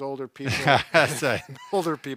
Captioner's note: laughs